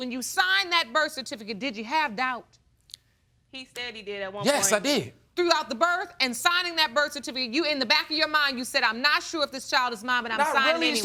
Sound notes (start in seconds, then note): none